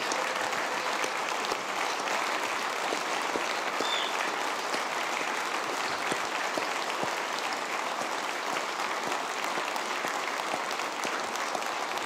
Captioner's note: applause